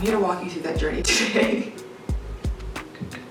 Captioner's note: laughs